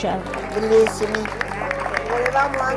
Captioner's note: speaking in foreign language